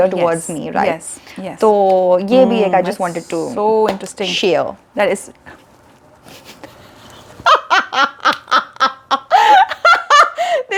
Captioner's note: both break out laughing